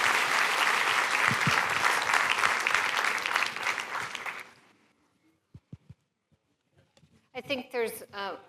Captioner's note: applause